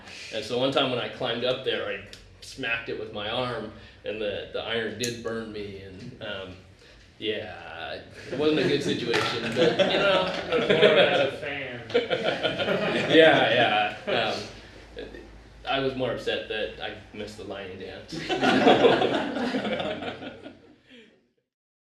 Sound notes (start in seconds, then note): 11.7 laughter